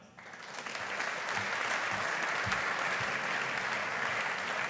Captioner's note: audience applauding